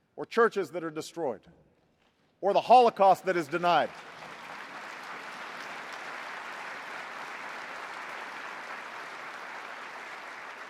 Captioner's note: applause